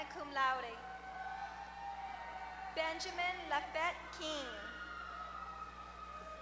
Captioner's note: applause